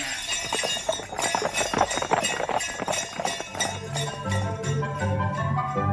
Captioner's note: sound of a horse-drawn carriage